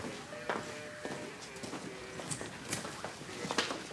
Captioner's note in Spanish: bullicio en el lugar